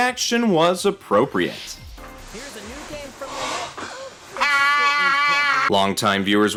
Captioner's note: Wario scream